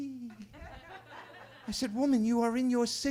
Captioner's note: attendees laughing